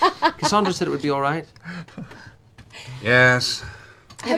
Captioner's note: sighs